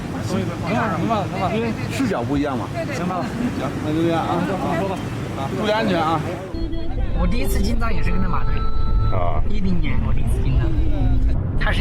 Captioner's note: speaking in foreign language